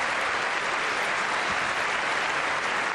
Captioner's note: applause